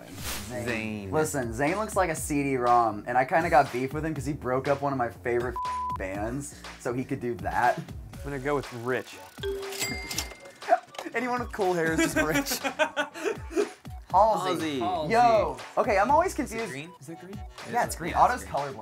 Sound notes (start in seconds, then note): 5.5 beep; 9.4 cash register rings; 9.4 ding; 11.8 laughs